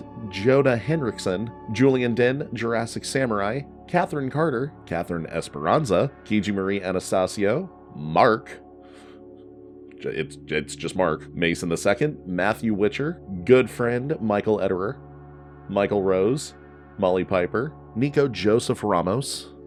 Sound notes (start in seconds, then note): none